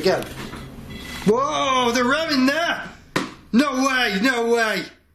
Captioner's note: beeping